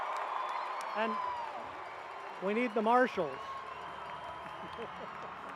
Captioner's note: cheering